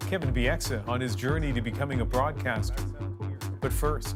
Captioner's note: laughter